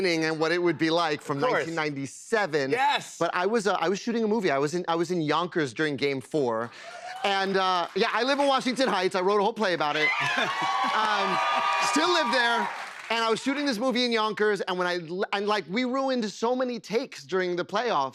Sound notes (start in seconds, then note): 6.8 cheers and applause